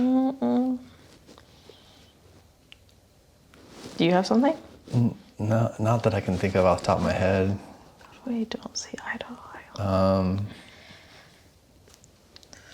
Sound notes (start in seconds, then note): none